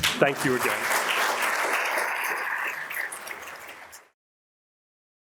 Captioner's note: audience applauds